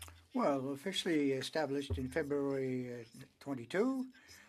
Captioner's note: speaking French